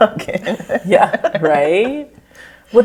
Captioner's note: all laugh